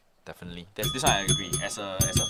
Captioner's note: ring ring